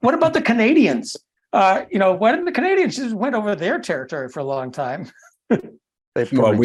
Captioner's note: laugh